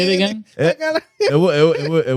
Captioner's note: laughing